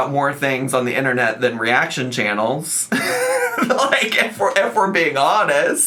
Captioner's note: laughs